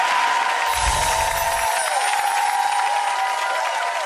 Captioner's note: audience cheering